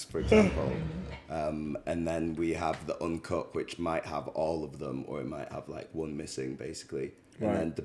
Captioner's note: laughs